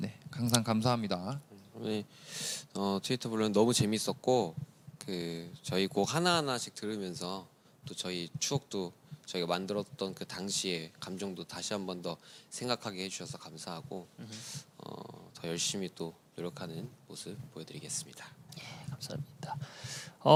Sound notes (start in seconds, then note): none